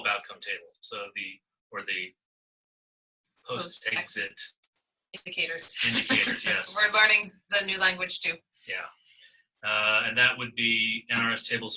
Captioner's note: laughter